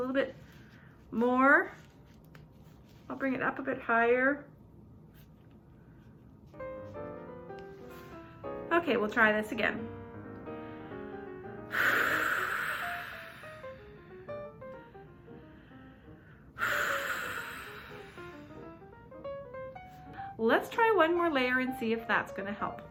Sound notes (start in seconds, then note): 11.6 blows air